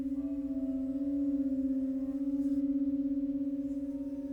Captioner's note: bell tones resume